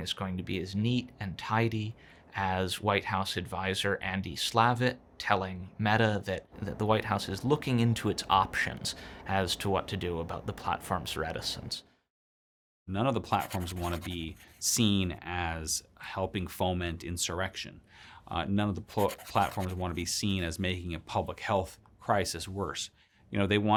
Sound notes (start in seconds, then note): 13.3 pencil scratching